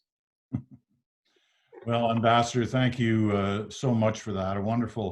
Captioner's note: chuckles